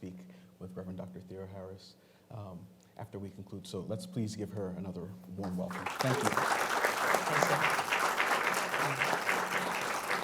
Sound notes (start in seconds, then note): 5.4 audience clapping